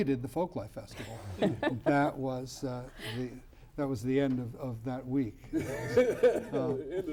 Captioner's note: laughter